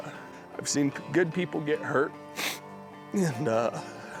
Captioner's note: sniffs